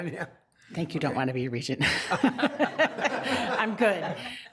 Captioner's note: laughs